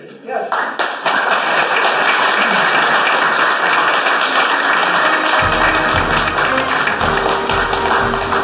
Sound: applause

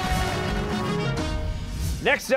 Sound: cheers and applause

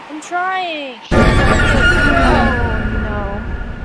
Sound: jumpscare noise

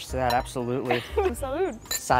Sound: laugh

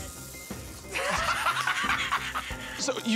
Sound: laughing

